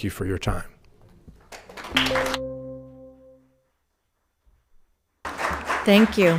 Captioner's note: audience applauding; timer dings